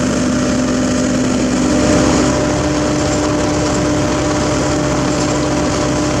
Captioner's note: engine